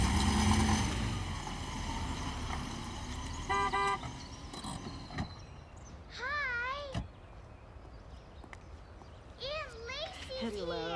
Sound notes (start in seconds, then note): 3.4 car horn beeps